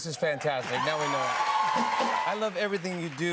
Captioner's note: cheers and applause